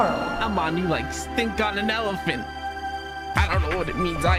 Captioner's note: Joey voice